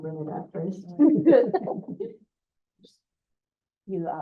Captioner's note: chuckles